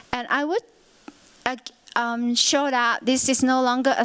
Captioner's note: none